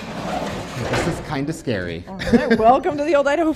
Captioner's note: laughs